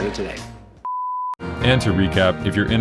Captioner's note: beep